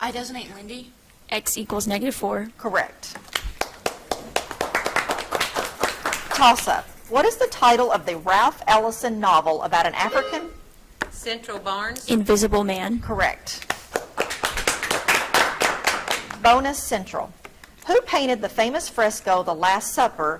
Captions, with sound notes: - I designate Lindy. - X equals negative four. - Correct. (audience clapping) Toss-up. What is the title of the Ralph Ellison novel about an African- (buzzer trills) - Central, Barnes. - "Invisible Man." - Correct. (audience clapping) Bonus, Central. Who painted the famous fresco "The Last Supper"